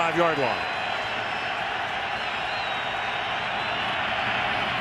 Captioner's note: cheering